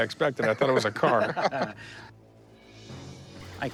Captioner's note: laugh